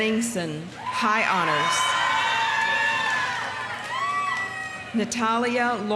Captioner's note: audience cheering; audience applauding